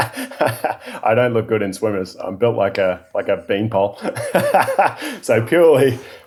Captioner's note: laughing